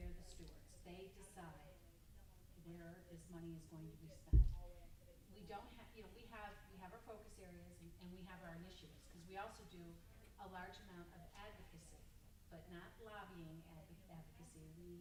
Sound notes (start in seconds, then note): 5.3 stammers